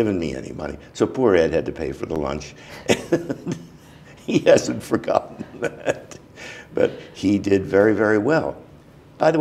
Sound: laughter

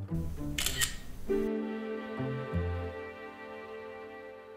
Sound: camera shuttering; soft music

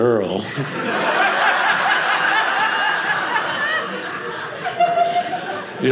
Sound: audience laughing

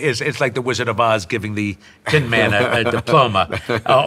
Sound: laughing

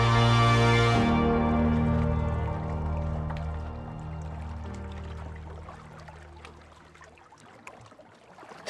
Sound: music fades, water laps against the rocks

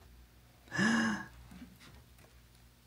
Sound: sighs

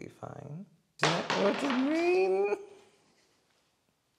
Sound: spooky Marbles Rolling

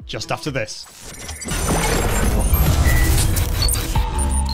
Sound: electronic tones

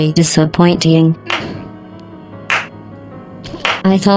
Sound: more slow clapping

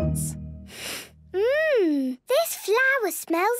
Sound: sniffs

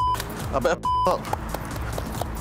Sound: beep

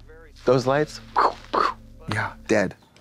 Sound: Katya imitates explosions

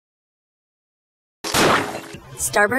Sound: splat!

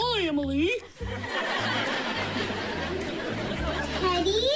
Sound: laughter

